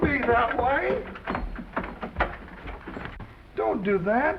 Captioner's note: door unlocks & opens